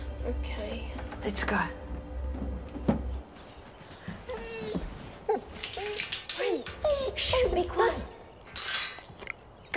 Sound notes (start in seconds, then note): 4.3 dog whimpering